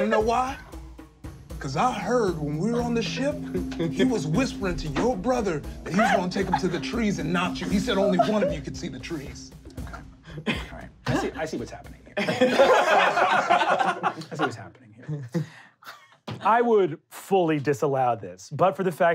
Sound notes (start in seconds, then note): 12.2 laughing